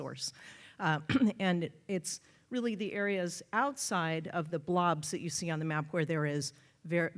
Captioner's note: cough